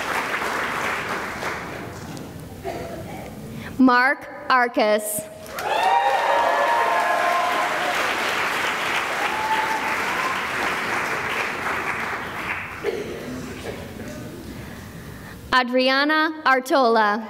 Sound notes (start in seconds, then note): 0.0 cheering and applause; 5.4 cheering and applause